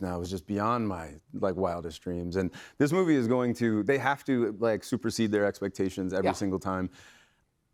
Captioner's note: none